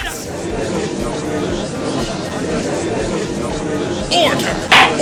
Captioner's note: gallery chattering!